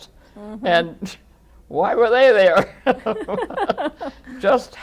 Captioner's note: laughter